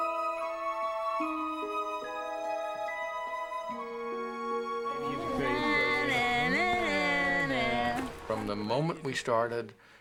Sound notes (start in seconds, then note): 5.2 teasing